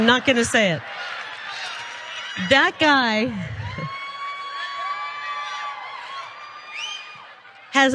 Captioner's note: laugh; applause